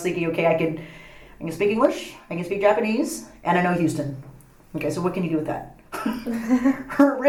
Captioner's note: all laugh